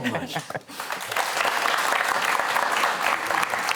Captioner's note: applause